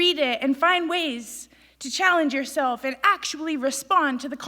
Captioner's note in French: none